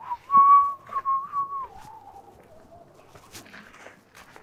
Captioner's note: Gigi whistling